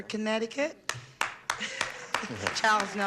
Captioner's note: weak clapping